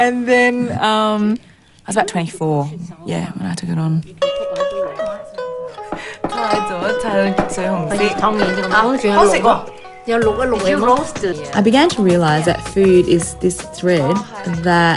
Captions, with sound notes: I was about 24 when I took it on. (SPEAKS IN CHINESE LANGUAGE) (ALL SPEAK IN CHINESE LANGUAGE) 'I began to realise that food is this thread